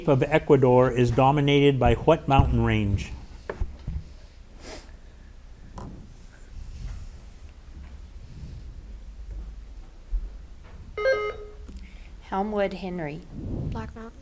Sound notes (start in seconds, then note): 11.0 button buzzing